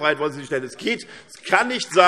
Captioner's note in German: Beifall SPD und BÜNDNIS 90/DIE GRÜNEN